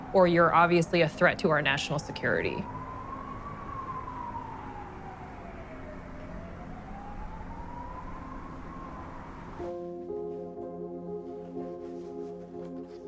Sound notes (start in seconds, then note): 3.4 ominous music; 3.4 sirens wailing; 9.6 dramatic music